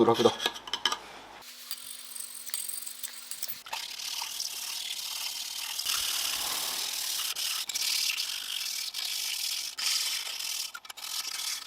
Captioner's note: working sound